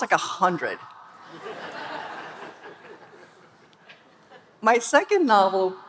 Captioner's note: audience laughing